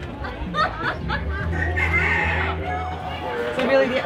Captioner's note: a woman laughs; rooster crows